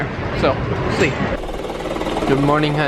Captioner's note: vest machine vibrating loudly